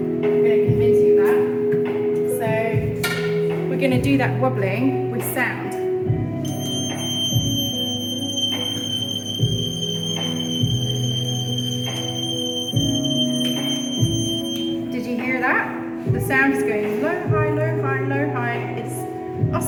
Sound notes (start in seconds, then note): 8.8 high pitched noise